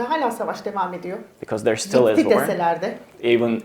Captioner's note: speaks in Turkish